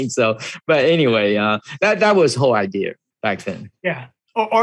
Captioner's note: laughs